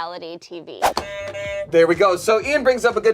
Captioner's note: buzzer honks